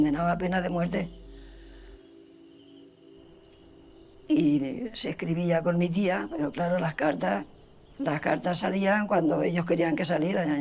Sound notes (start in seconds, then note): 1.9 nature sounds